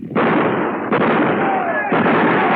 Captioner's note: gunshots